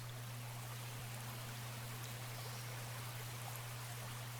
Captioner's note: water trickles gently